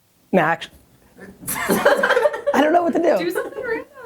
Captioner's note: laughter